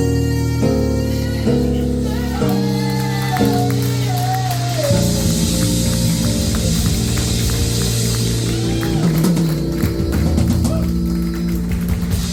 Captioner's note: applause